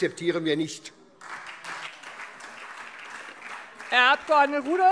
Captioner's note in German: Beifall SPD, Freie Demokraten und DIE LINKE